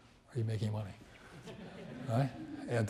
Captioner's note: audience laughs